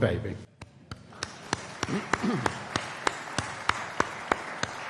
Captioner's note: audience applauding